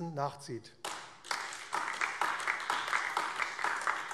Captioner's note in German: Beifall AfD